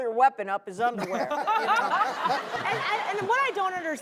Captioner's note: laughter